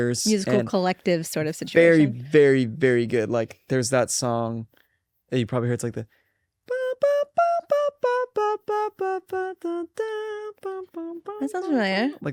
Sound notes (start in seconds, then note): 6.7 imitates brass music